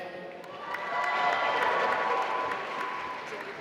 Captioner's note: applause